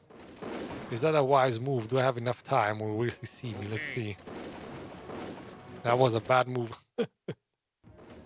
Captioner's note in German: Lacht